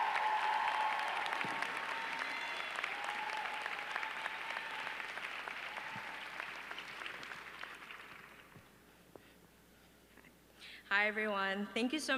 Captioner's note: applause